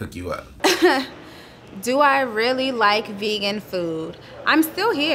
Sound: chuckles

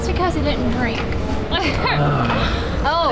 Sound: emma giggles

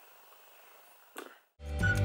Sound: mwah

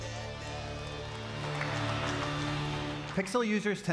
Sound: audience applauding

